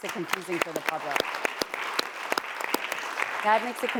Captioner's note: audience clapping